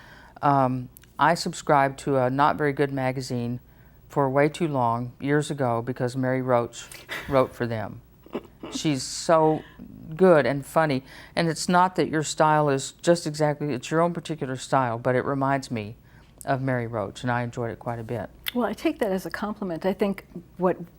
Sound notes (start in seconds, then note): 8.2 laughs